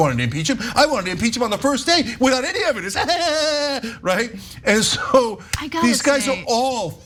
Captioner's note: laugh